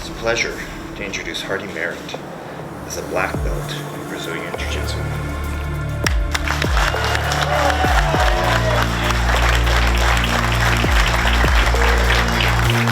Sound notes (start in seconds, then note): 6.0 audience clapping; 6.1 audience cheering